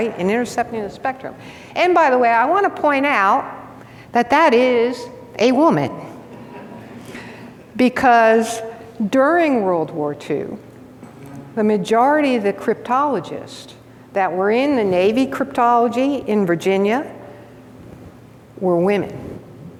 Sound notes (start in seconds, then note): 6.3 audience laughs